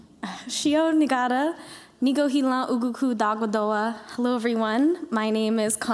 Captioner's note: non-english speech